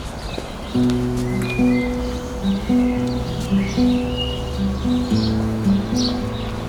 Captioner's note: sound of birds tweeting